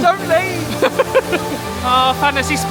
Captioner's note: laughing